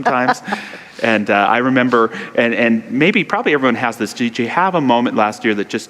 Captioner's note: laughter